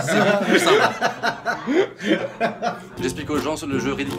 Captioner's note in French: rire